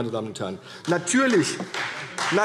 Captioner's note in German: Beifall CDU